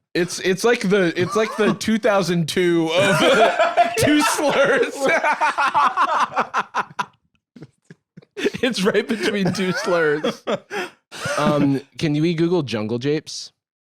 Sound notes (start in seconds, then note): 5.8 both laughing